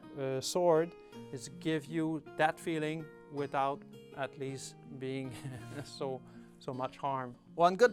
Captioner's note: laughs